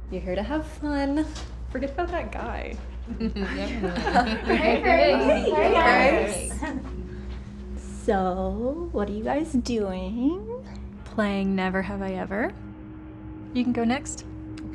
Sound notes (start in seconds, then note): 3.1 laughter